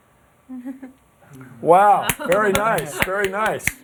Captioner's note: applause